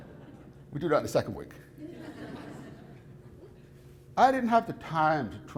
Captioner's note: audience laughs